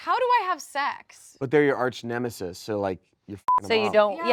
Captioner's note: beep